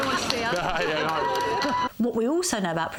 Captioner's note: William laughing